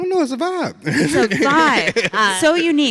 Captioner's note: laughs